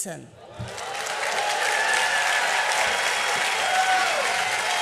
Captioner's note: applause and cheering